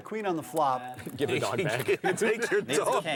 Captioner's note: voiceover; laughing